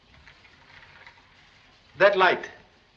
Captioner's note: none